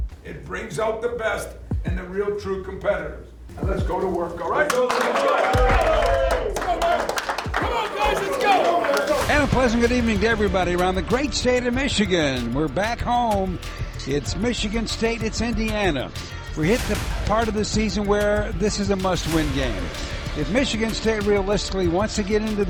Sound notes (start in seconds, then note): 3.6 team cheering